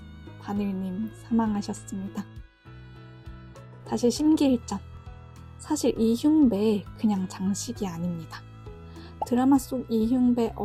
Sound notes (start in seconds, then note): 2.3 A brief moment of silence